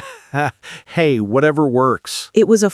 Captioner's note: laughs